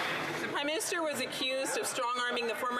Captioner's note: some Applause